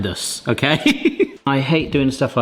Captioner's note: laughing